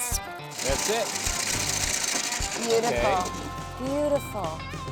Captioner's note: corn rattling in hopper